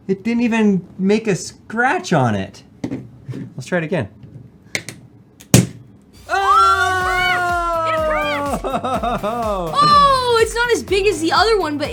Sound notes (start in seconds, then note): 5.4 loud snap